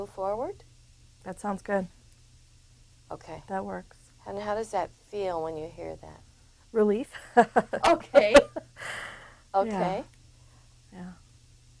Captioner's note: laughs